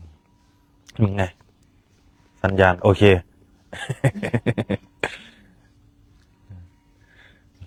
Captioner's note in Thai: เสียงหัวเราะ